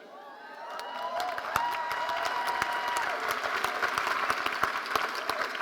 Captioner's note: audience applauding